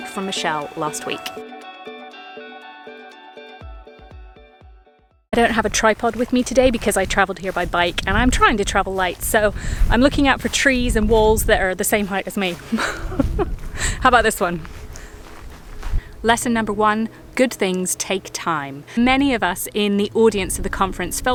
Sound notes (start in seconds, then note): 2.0 upbeat music; 12.6 laughs